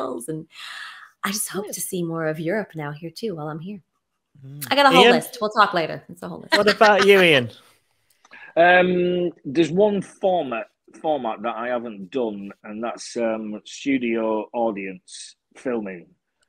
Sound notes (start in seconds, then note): 6.5 laughing